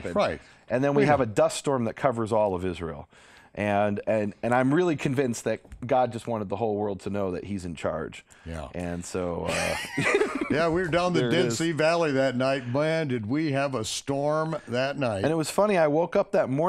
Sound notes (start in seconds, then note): 9.4 laughs